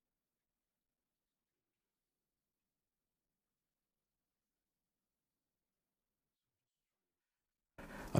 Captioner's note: silence